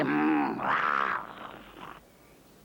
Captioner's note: snarling